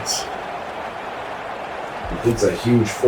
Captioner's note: crowd Noises